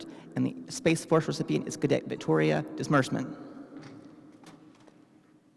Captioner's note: none